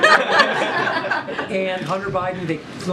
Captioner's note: laughter